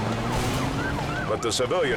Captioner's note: siren wailing; car engine revving